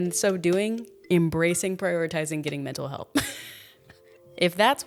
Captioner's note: laughs